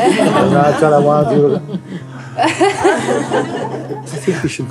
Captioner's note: Lachen